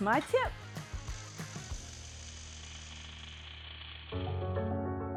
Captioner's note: welding tool buzzing; bright piano music